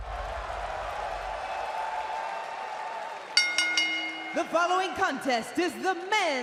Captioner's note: bell ringing